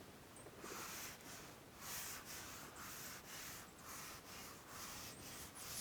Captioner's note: stroking of paintbrush